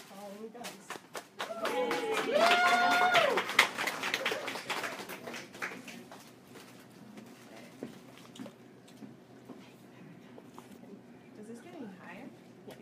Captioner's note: audience Applauds